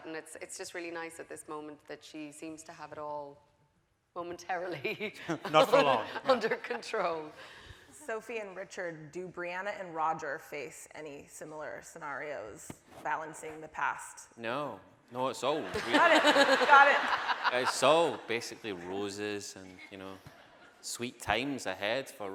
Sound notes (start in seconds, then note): 15.7 laughing